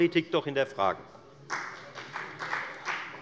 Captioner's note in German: Beifall bei der FDP